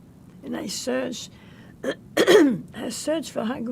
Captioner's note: clears throat